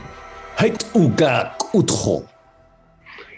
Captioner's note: speaks In Sangheili